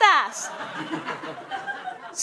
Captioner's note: laughter